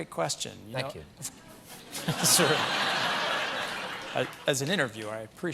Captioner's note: laughter